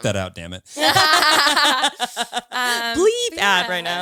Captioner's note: all laughing